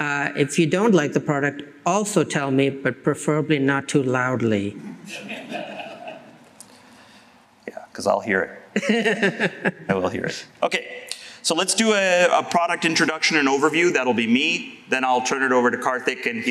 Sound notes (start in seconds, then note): 5.0 laughter; 8.7 laughs